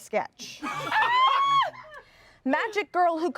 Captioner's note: everyone laughs